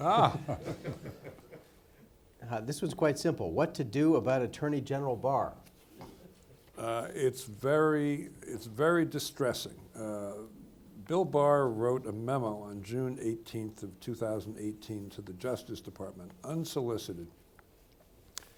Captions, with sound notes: - Ah-hah! (laughs) (people laughing) - This one's quite simple, what to do about Attorney General Barr? - It's very, it's very distressing. Bill Barr wrote a memo on June 18th of 2018 to the Justice Department, unsolicited,